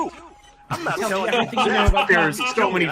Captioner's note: everyone laughing